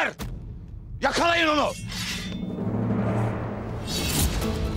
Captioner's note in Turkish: Kılıç sesi; Müzik - Aksiyon